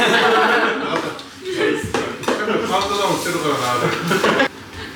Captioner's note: laughs